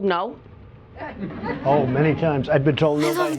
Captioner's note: audience snickers